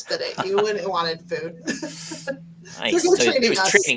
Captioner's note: laughs